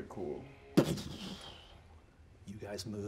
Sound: imitates magic whooshing

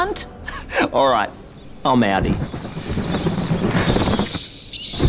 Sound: sighs

